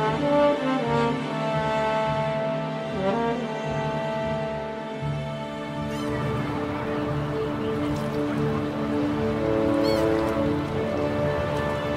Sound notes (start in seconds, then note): 5.4 water lapping; 5.8 seagulls squawking